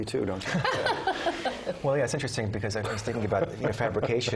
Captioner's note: laugh